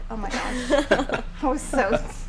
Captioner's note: laughing